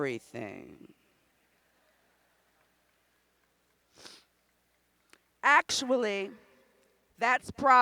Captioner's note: laughter